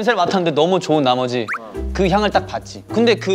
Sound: speaking Korean out of frustration

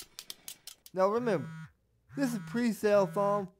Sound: cellphone vibrates

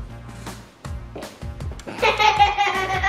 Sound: flatulence; laughter

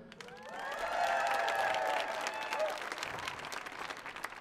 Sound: audience applauding

